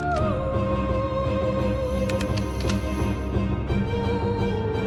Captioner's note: gun clicks